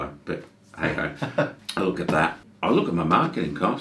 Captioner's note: laughs